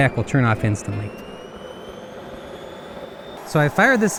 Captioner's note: jet pack firing up